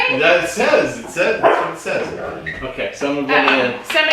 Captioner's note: you can hear dogs barking in background